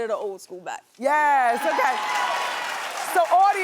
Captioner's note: cheering